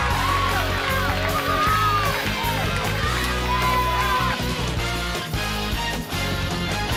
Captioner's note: crowd cheering; bell ringing